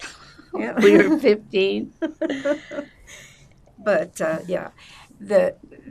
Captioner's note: laughing